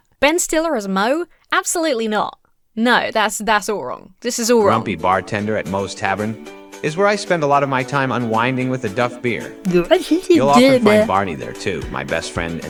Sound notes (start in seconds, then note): 9.7 speaking gibberish